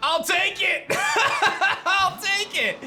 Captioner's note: laughs